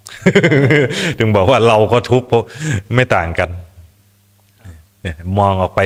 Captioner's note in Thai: เสียงหัวเราะ